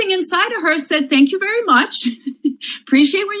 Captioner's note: laughs